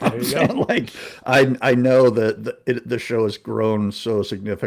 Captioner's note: laughs